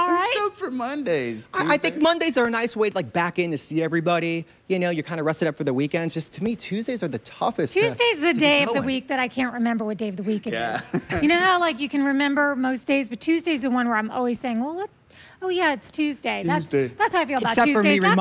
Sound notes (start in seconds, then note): 6.1 laughs